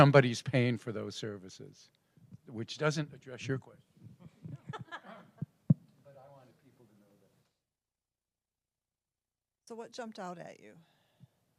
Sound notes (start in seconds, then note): 4.2 laugh